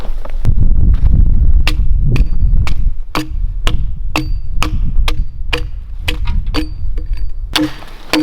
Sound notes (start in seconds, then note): 2.4 axe thudding; 2.4 thuds echoing